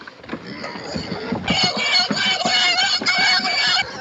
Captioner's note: pigs squealing